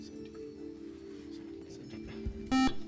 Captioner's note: buzzer